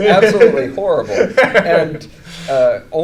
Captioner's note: laughing